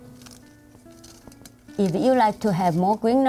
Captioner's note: rustling